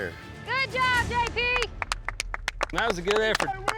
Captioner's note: everyone clapping